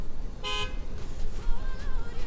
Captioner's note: honk